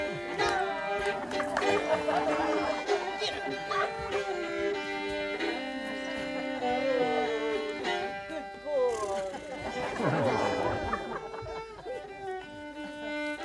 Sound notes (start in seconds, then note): 1.3 crowd laughter; 3.2 quietly: Git up; 10.2 crowd laughter